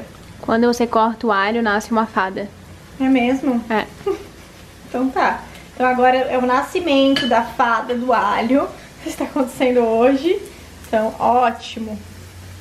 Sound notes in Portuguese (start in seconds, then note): 3.8 rindo